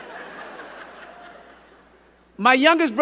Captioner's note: crowd giggling